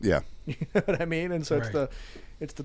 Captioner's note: chuckles